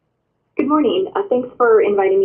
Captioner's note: voiceover